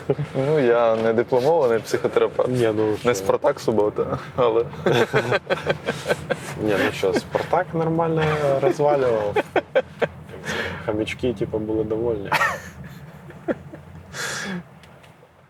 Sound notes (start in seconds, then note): 0.0 laughs; 4.7 both laugh; 12.3 laugh